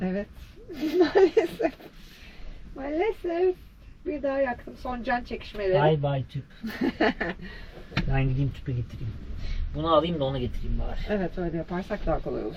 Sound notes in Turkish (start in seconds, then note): 6.6 kahkaha